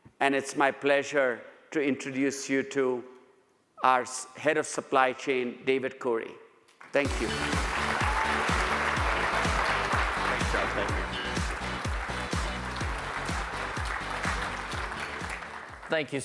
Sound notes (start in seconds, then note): 7.8 audience applauds; 7.8 upbeat music; 11.8 audience applauds; 11.8 upbeat music